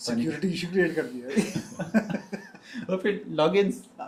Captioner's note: laughter